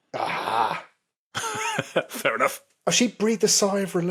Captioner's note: chuckles